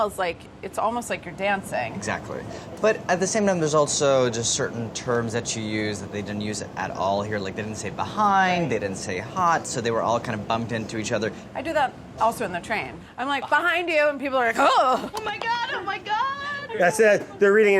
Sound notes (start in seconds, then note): 14.9 gasps